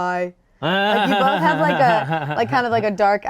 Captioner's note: laughing